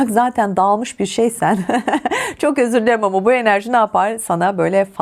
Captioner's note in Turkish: kahkaha